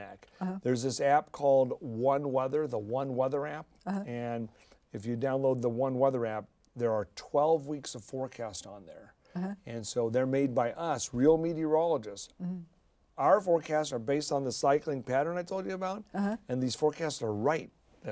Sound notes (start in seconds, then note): none